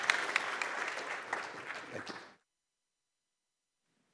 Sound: applause

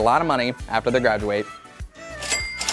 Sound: cash register jingling

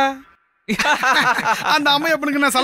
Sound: laughs

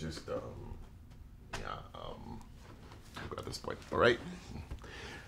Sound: Desmond mumbles

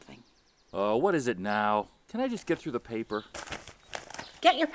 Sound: newspaper crinkling

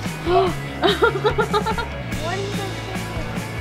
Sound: laughing

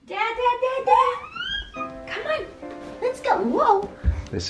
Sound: shrieks

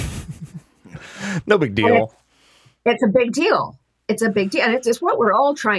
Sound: chuckles

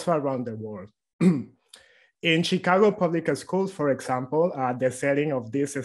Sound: cough

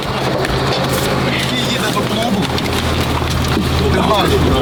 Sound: machine noise

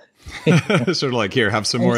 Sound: laughs

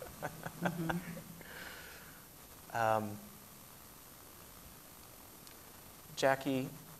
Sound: laughs

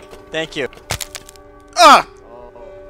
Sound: crack

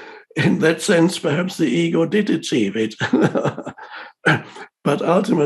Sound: laughs

